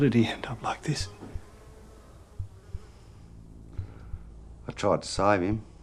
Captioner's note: flies buzzing